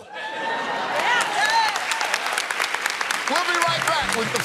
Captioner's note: cheers and applause